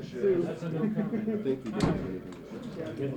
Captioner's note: ambient room noise, unintelligible conversation, footsteps; door shuts